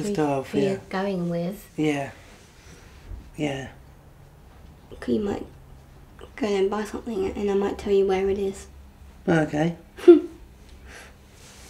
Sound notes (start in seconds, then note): 10.0 laughs